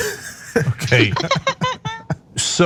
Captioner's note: laugh